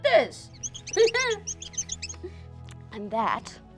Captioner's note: squeaking